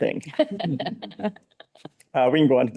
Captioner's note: people laughing